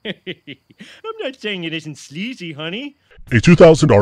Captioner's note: laughs